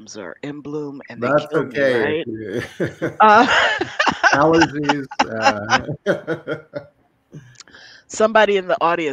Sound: laughter

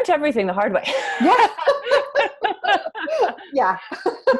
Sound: laughs

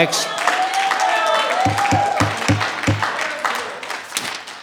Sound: audience applauding

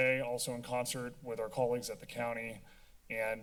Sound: none

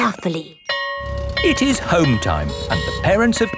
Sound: school bell ringing

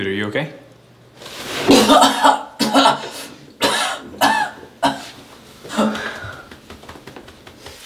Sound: throwing up

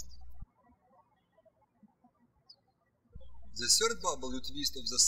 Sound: birds chirping

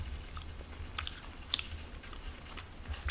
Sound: chewing Sounds

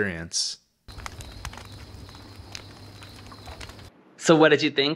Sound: fire crackles, crickets chirp

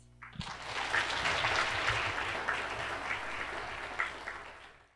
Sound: audience applauds

